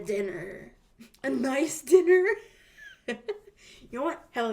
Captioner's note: laughs